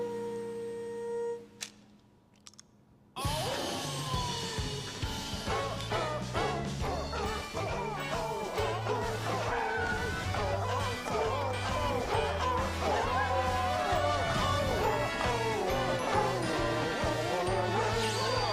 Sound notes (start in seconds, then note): 3.5 dog singing; 3.5 dynamic music